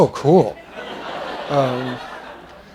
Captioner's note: laughter